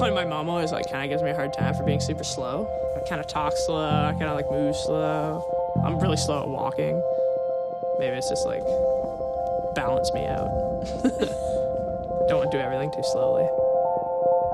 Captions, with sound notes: It's like my mum always like kinda gives me a hard time for being super slow. I kinda talk slow, I kinda like move slow. I'm really slow at walking. Maybe it's just like, balance me out, [laughs]. Don't want to do everything too slowly.